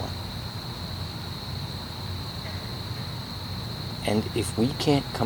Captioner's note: insects chirping & calling